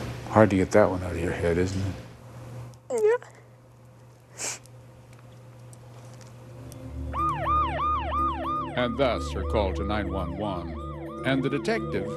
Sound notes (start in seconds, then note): 7.0 sirens